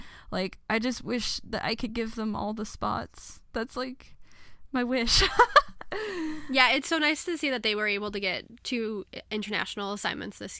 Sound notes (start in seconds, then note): 5.2 laughs